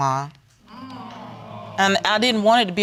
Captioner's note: audience groaning